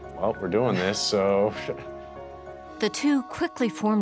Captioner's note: laughs